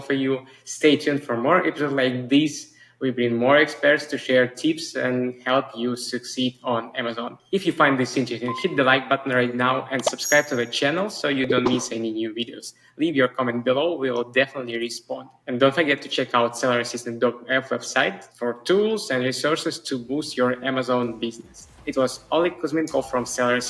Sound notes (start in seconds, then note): 11.4 graphics bubbling